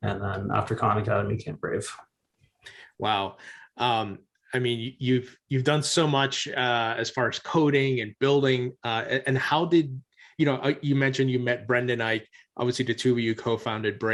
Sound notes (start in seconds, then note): none